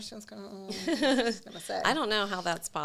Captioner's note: chuckling